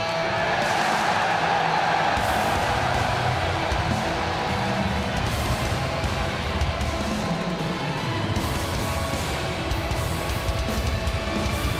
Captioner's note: crowd cheering